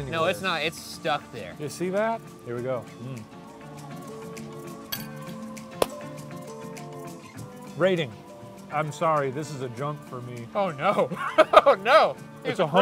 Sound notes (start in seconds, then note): 3.4 gentle upbeat music; 5.7 clapping; 11.0 laughing